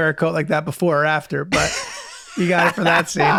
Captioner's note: Glenn laughing